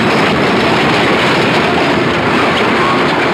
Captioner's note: dramatic music; hooves pounding; dramatic music; wagon wheels rumbling